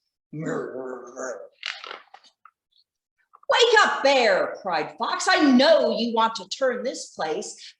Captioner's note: grrrrrrrr